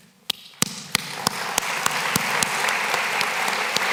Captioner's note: applause